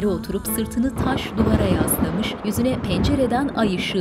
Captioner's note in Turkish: Gök gürültüsü sesi